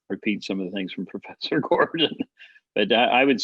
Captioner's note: laughs